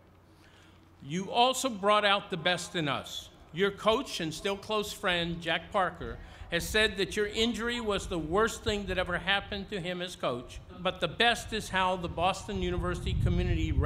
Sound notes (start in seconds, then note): none